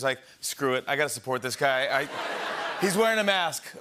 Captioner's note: laughter